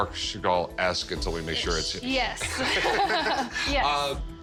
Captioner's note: both laugh